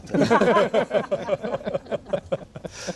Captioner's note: laughter